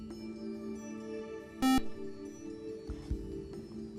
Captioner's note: buzzer